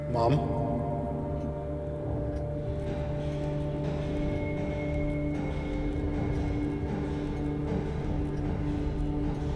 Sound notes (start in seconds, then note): 4.7 rocking horse rocking